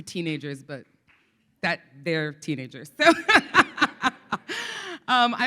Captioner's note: laughs